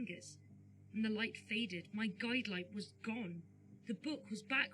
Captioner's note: none